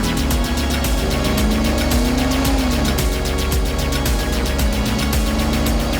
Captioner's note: car engine revving